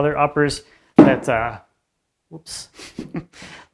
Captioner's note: stick bangs ceiling